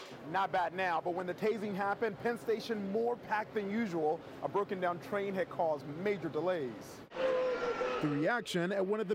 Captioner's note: crying